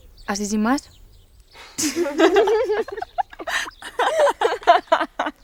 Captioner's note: girls laughing